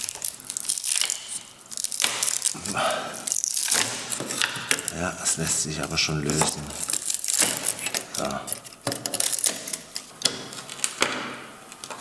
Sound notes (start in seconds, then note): 2.5 gasping